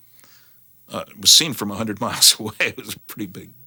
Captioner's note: chuckles